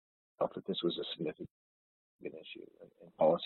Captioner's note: audio distorts